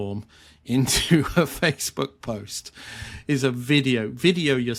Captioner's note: chuckling